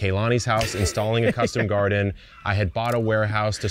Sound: laughing

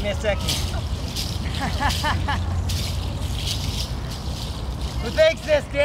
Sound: laughs

